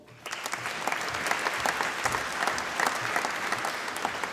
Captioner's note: applause